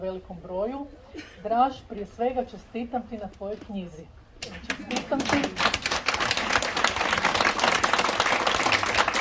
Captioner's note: applause…